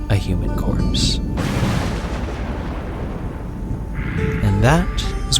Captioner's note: lightning Crash